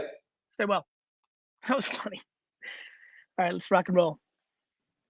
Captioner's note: chuckles